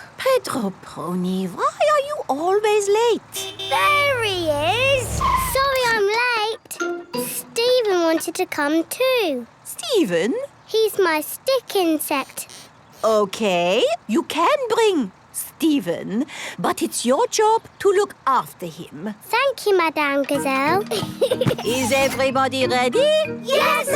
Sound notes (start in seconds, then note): 3.3 honking